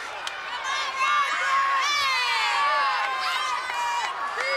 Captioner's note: crowd cheers